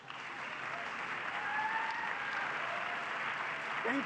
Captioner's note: public applause